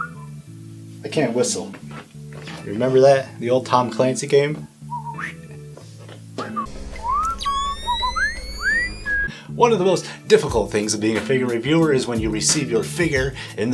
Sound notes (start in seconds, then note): 4.9 another attempt at whistling